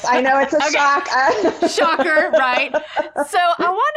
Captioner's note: laughing